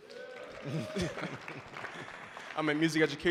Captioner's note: audience applauding